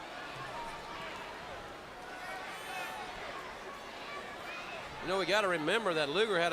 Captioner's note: crowd chatter